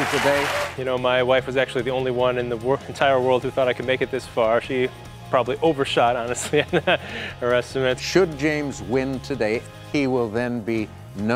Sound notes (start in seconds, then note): 6.4 laughs